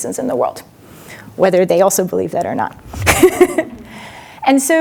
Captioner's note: chuckles